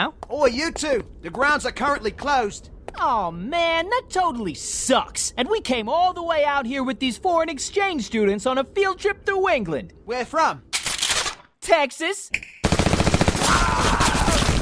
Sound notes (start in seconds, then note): 10.7 cocking guns; 12.2 snap